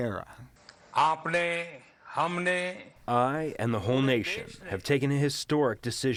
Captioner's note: through translator